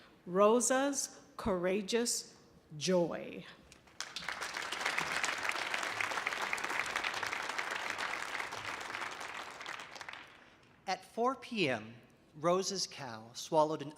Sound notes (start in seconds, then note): 3.9 audience applauding